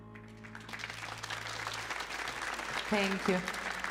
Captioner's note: audience applauding